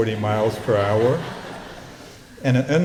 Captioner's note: laughter